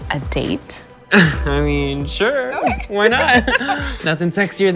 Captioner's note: giggles